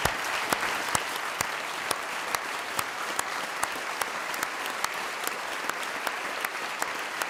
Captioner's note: clapping